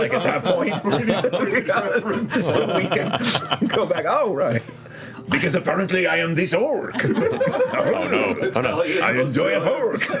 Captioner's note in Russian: с французским акцентом